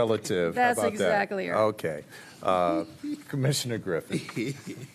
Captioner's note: laughter